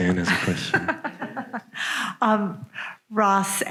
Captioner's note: laughs